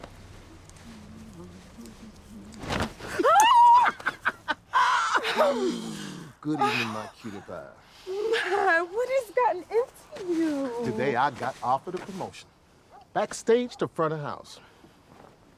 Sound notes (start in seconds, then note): 0.4 humming; 2.9 laughing; 3.0 shrieking in surprise